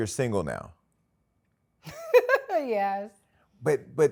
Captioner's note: laughs